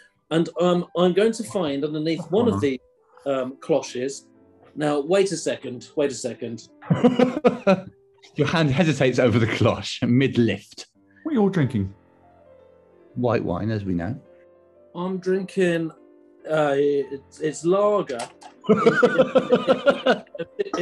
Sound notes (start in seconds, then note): 6.9 laughing; 18.6 laughing